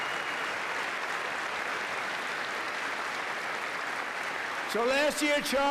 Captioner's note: applause